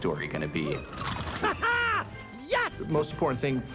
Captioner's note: laughs